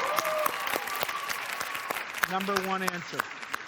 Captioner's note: cheers and applause